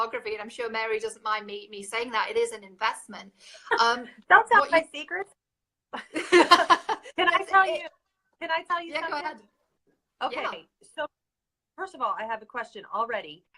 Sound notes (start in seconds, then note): 6.0 laughing